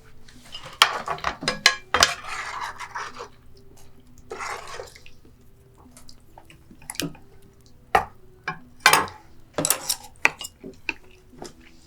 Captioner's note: sound of clattering utensils and eating